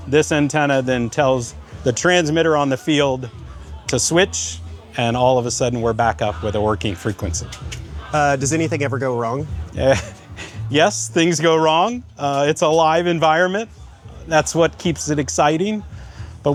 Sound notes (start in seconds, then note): 9.5 chuckles